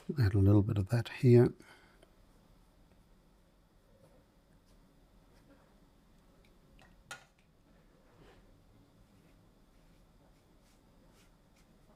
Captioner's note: silence